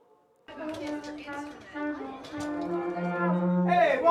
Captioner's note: music classroom bustle